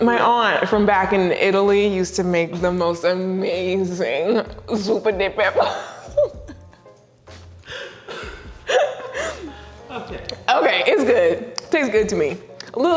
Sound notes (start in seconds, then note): 5.5 laughs; 7.7 both laughing